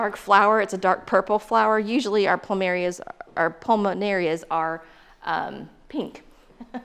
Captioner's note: laughs